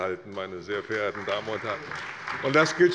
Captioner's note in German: Beifall bei der CDU und dem BÜNDNIS 90/DIE GRÜNEN